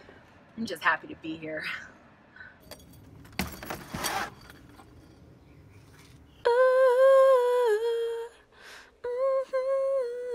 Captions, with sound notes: I'm just happy to be here. (still humming)